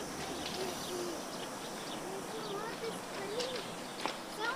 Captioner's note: distant shouts